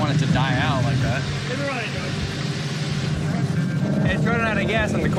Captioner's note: engine rumbling